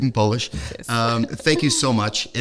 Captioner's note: non-english speech